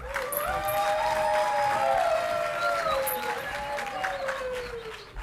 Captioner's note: audience clapping and cheering